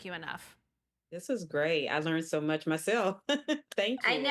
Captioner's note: laughing